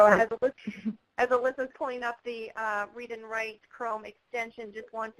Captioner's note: voiceover